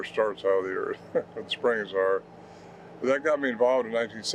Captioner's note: chuckles